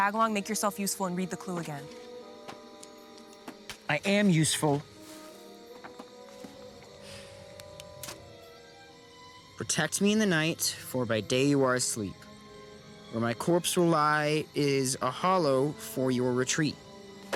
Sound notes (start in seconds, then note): 7.5 clicks